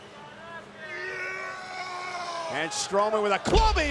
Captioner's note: Strowman yells